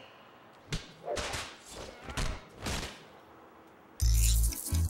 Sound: fighting impacts

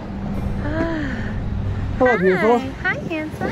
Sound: sighs dramatically

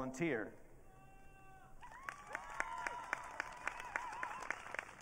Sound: audience cheering

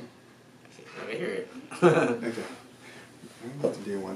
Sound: laughs

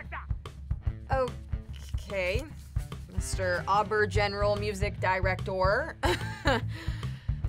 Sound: laughs

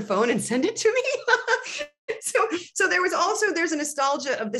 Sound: laughter

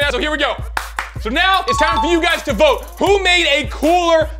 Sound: claps

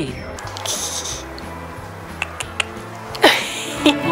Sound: clucking; chuckling

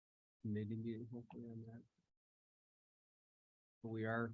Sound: indistinct conversation

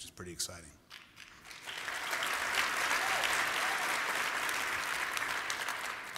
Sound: applause

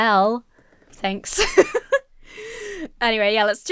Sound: laughs

